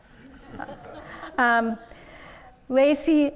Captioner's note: audience laughs